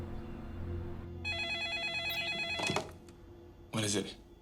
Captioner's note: phone ringing